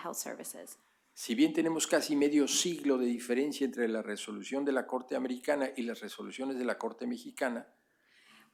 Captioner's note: speaking spanish